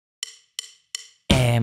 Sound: natural voice

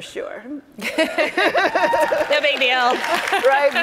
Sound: both laughing

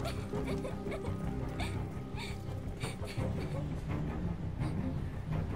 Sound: crying

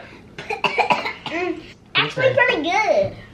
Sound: coughs

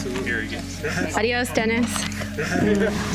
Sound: speaking foreign language

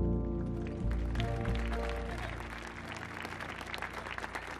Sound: audience clapping

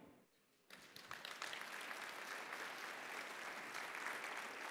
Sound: audience applauding

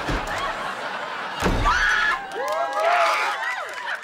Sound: cheering

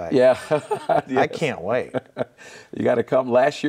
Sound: laughing

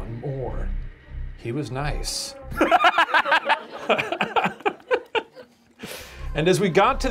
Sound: laughing

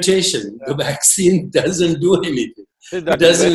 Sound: laughs

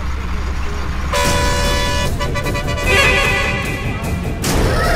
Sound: horn blares

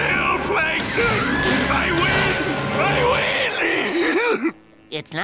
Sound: laughing

